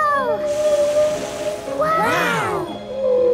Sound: gasps; whale calling

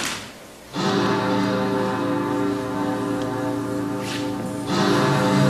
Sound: Big Ben tolls

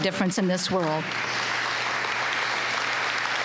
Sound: applause

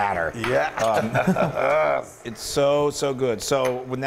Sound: laugh

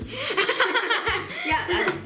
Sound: laughing

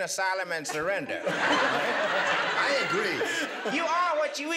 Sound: laughter

